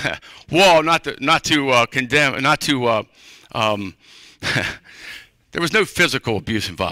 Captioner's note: laughter